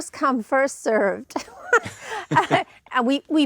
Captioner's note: laughs